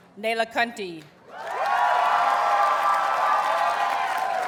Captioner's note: audience cheers and applauds